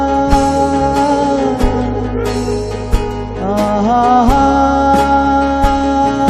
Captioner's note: audio disturbance